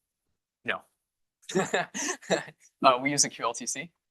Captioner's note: laughter